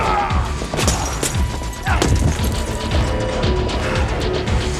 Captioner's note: glass shattering